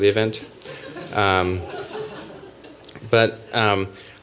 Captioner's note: laughter